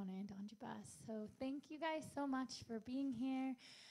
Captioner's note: in English